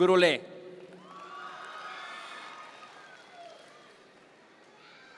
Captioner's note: audience members cheer